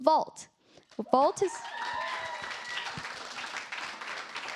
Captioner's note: cheers, applause